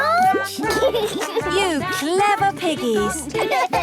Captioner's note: laughs